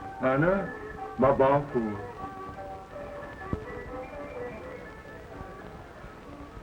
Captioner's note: Pepe le Moko speaks in foreign language